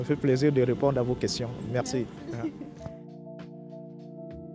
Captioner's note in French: rires